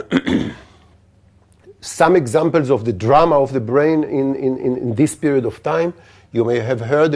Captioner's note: cough